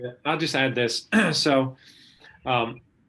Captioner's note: clearing throat